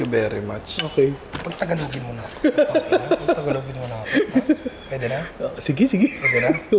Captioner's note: laughs